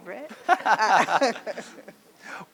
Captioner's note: laughs